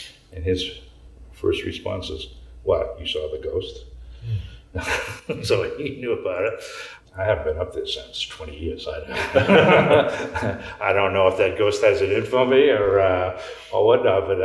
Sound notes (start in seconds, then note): 9.1 laughs